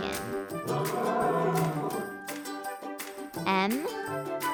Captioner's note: lion roars